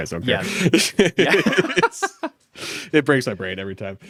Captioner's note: laughs